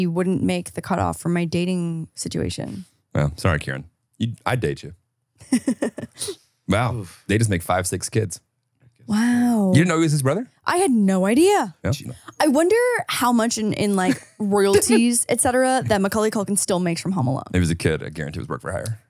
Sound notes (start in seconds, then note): 1.2 laughs; 6.7 laughs